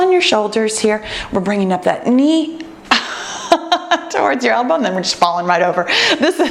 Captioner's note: laughs